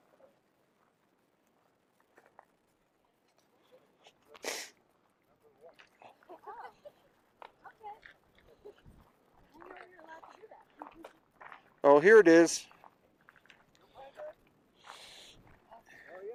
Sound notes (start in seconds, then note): 4.4 gravel crunching; 7.4 crew members chattering faintly